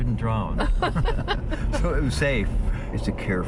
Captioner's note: laughter